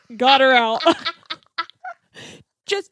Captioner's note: laughs